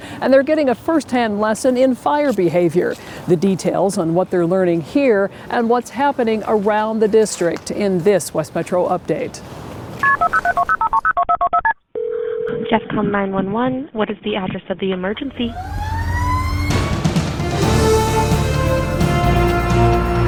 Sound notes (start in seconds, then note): 10.0 phone beeping; 11.9 phone ringing; 15.4 sirens blaring; 17.4 intense music